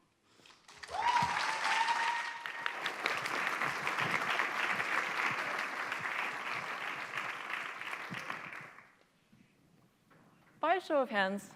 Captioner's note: applause